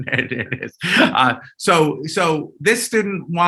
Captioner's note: chuckling